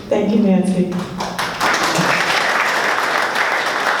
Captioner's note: applause